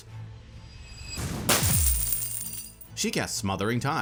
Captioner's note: coins rattling